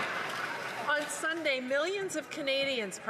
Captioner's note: some Applause